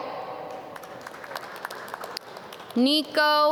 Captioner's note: audience clap